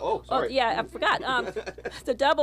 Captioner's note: laughter